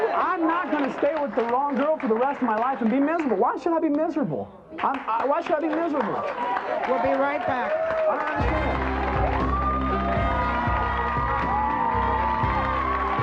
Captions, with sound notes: I'm not gonna stay with the wrong girl for the rest of my life and be miserable, why should I be miserable? Why should I be miserable? (audience applauds)